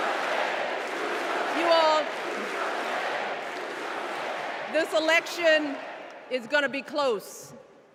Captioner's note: crowd chanting